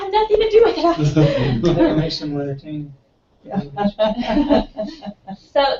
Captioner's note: laugh